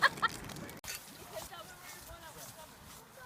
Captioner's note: hiking noises